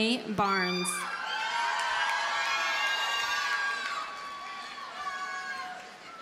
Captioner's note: audience cheers and applauds